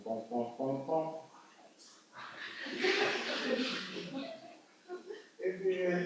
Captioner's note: audience laughs